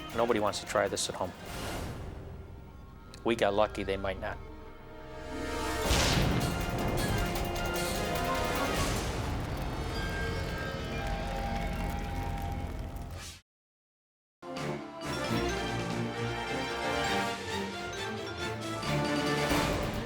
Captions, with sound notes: - Nobody wants to try this at home. We got lucky, they might not. (trick exploding) (dramatic music fades) (adventurous music)